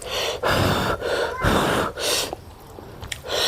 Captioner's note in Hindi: अचानक ज़ोर से सांस लेने की आवाज़; हांफने की आवाज़; रोने की आवाज़; नाक से की जाने वाली आवाज़